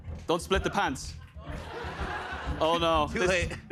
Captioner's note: laughter